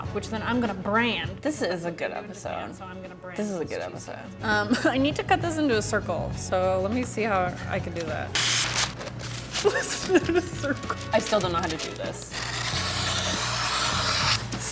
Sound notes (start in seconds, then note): 8.0 wax paper ripping; 9.6 laughs; 12.3 wax paper crunching